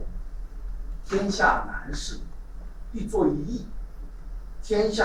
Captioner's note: speaking in Chinese